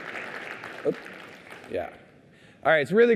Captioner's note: applause